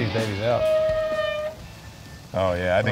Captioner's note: grill hood squeaks